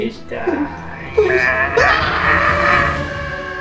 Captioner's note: yell full of pain and fear